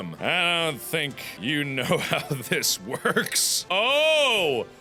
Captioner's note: giggles